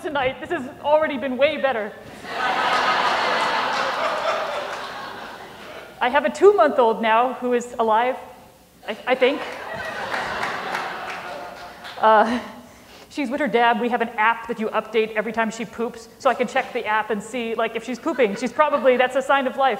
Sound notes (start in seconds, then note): 7.4 laughter